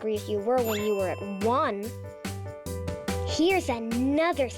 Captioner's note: check mark rings